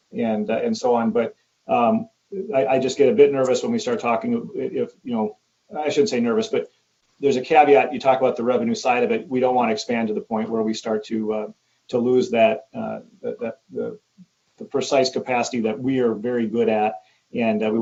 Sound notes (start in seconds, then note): none